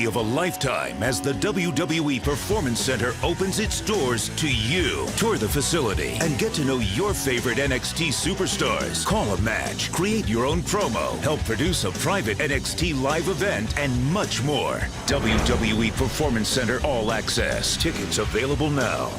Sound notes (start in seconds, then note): none